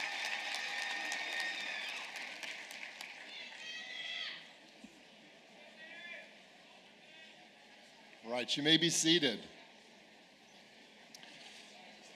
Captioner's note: applause